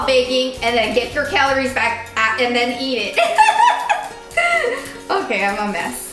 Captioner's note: laughing